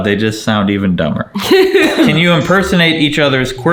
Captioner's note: laughing